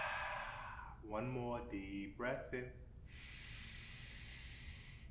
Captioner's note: inward breath